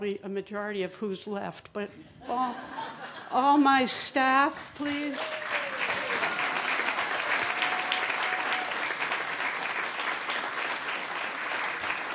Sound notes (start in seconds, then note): 8.7 applause